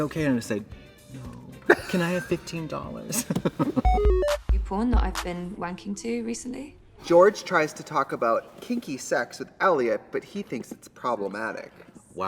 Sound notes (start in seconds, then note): 3.1 both laugh